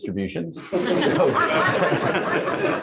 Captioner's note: laughter